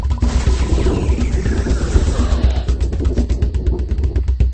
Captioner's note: power-down